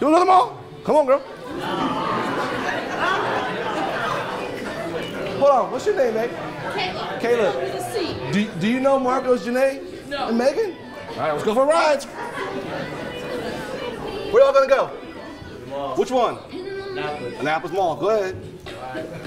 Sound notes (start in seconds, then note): 1.3 attendees laughing